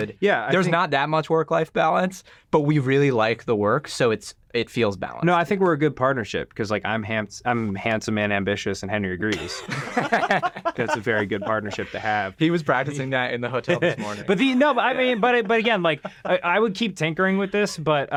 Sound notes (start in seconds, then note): 9.3 group laughing; 13.6 chuckles